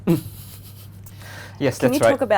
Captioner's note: laughs